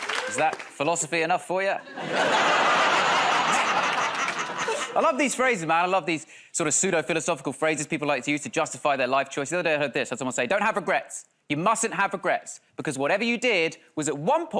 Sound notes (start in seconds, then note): 1.8 laughter